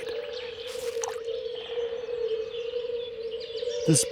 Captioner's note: frogs croaking